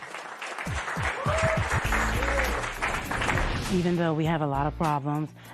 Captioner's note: cheers and applause